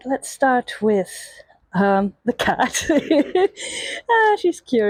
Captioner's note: laughs